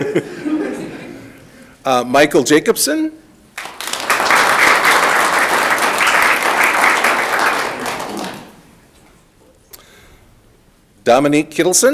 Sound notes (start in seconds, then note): 0.0 people laughing; 3.5 audience clapping